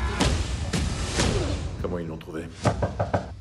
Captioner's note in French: toc-toc!